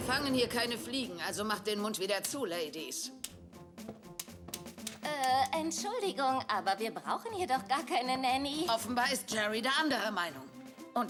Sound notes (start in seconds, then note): 3.2 cane tapping